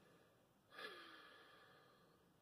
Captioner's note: sigh